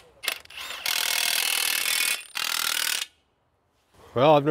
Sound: drill whirs

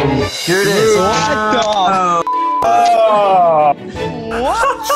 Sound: tense music; beeps

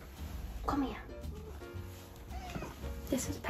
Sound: cat meows

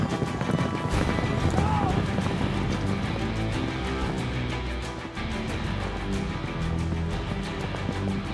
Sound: hoofbeats

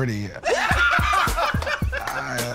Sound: laughter

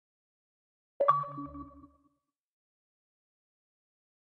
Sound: bleep Bloop

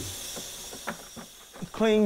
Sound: water running

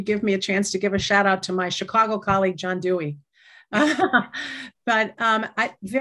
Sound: laughter

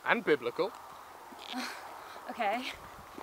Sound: unconvinced noise

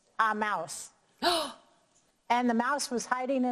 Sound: gasping

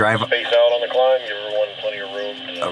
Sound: radio voice

